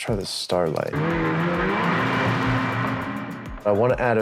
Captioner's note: snow mobile engine